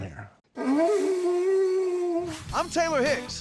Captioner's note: blowing